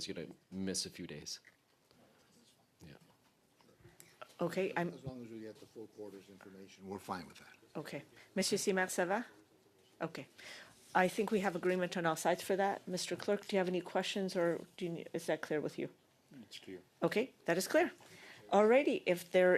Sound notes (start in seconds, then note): 12.9 speaking French